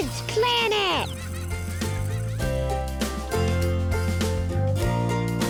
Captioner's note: animals laughing